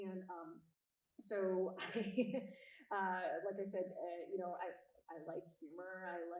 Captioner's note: chuckles